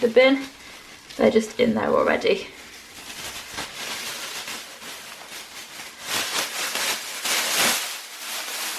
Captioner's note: more bin bag rustling